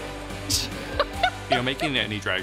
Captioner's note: upbeat music continues; laughing